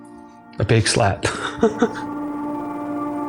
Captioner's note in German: lacht